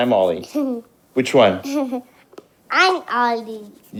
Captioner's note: giggling